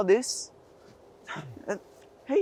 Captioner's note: Saeed stutters